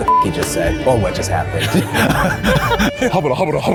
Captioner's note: laughs